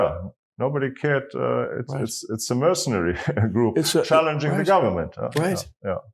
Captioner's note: laugh